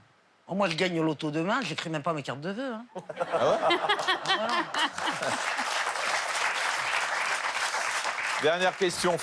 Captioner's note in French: rires; applaudissements